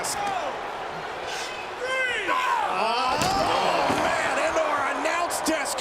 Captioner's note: applause